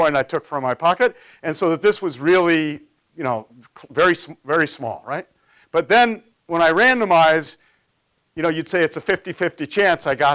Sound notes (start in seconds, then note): none